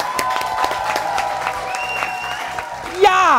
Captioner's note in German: Jubel, Applaus